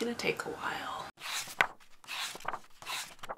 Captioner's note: pages turning